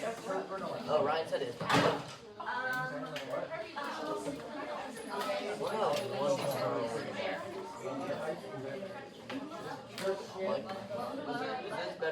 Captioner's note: more classroom chatter